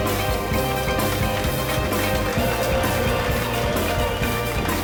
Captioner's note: passengers applauding